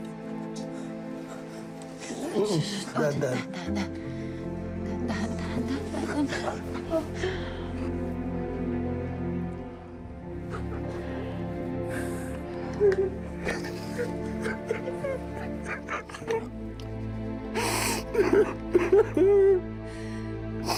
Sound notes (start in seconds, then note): 7.2 inhales deeply; 8.6 gloomy music continues; 11.8 sobbing; 17.6 moses sobbing loudly